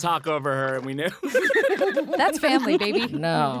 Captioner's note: all laughing